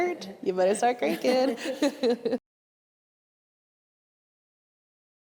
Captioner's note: all laughing